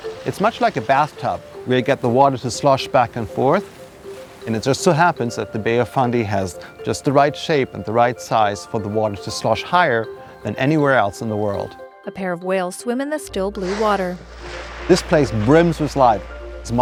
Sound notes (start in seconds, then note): 0.0 water sloshing; 13.5 whale exhales deeply